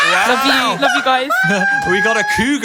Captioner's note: squawks